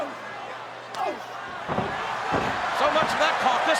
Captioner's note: kick thwacks